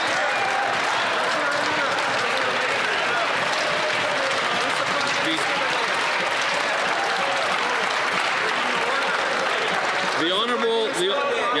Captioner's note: some Applause